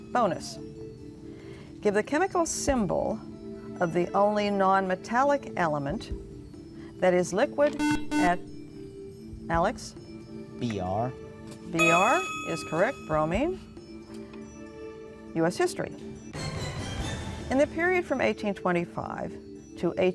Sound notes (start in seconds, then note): 7.7 buzzer